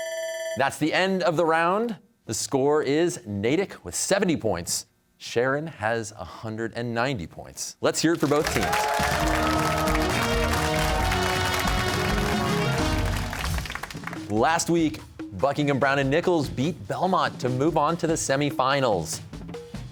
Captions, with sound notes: That's the end of the round. The score is Natick with 70 points. Sharon has 190 points. Let's hear it for both teams. (cheers and applause) Last week, Buckingham Browne and Nichols beat Belmont to move on to the semifinals.